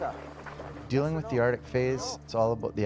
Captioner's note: voiceover